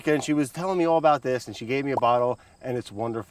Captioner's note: bubbles pops